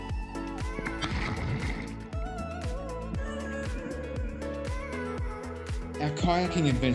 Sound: splash!

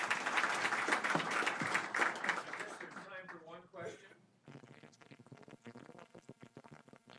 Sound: applause

